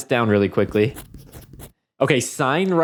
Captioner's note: scribbling